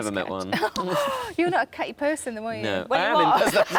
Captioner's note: gasps